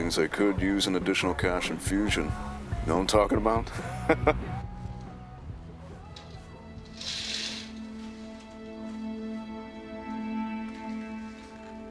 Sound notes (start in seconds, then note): 3.7 laughs; 6.9 melancholy music